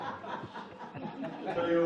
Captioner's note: audience laughing